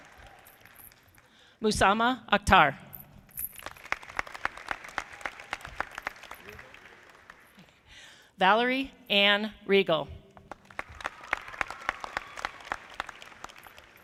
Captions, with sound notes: Musamma Akhtar. (audience clapping) Valerie Anne Riegle. (audience clapping)